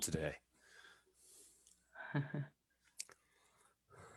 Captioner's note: chuckles